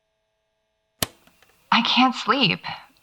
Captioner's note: click; light static resumes